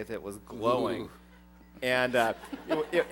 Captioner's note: laughter